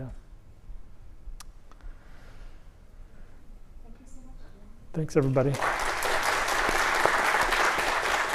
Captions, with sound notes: Thanks everybody. [Applause]